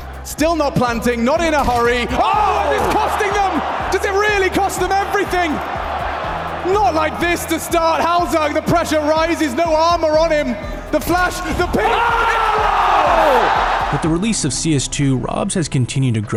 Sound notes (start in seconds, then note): 12.5 commentators shout